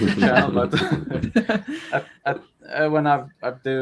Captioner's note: all laughing